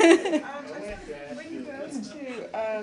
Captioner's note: laughter